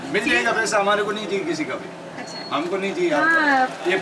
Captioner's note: in foreign language